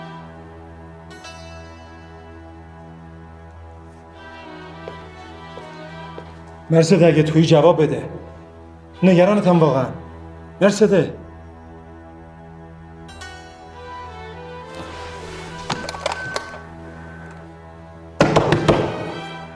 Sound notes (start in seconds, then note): 15.4 doorbell ringing; 18.2 door knocking